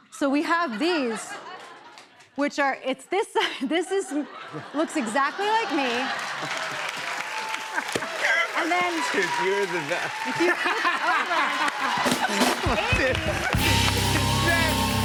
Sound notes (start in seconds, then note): 6.0 cheers and applause; 11.2 laughter, cheers, applause